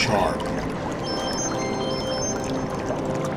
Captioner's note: ringing sound effect